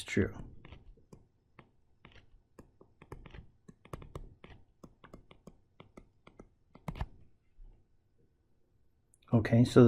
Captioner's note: tapping Sounds